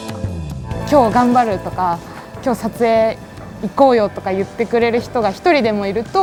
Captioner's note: speaking in foreign language